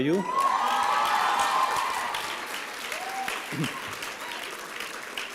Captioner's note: applause and cheering